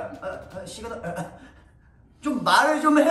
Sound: dying of laughter on the side

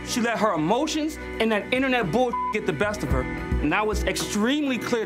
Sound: beeps

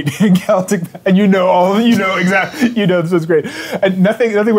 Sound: laughs

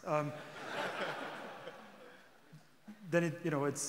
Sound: audience laughing

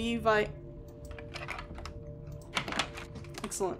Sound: lock Turns, Door Opens

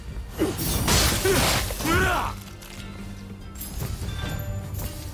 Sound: blows land

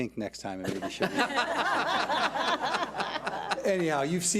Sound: audience laughs

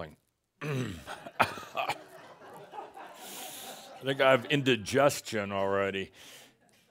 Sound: Adamus coughs and some laughter

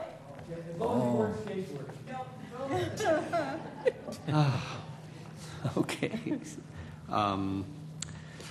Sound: laugh

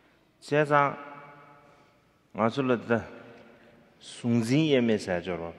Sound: speaking in foreign language

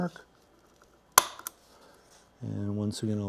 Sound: metal punching through

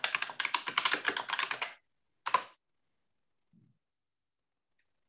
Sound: keyboard clattering

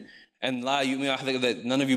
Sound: speaks in foreign language

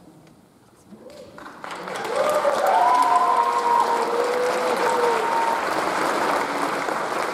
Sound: audience applauds; audience cheers

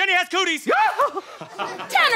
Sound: screams

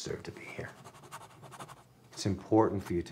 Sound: pencil scratches

